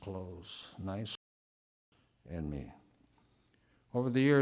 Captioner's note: audio drop